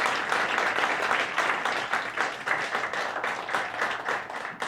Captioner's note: audience applauds